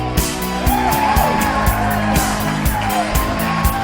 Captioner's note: small amount of additional applause